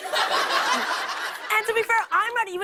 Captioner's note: laughter